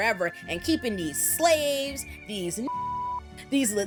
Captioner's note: beep